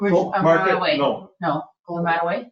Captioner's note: people chattering